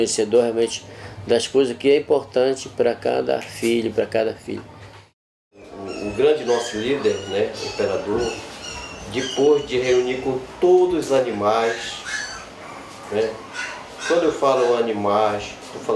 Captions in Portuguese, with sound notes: das coisas que é importante para cada filho, para cada filha. O grande nosso líder, [animal esganiçando] o Imperador, depois de reunir com todos os animais... [animal esganiçando, latidos do lado de fora] Quando eu falo animais,